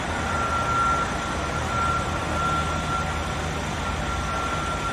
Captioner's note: alarms wailing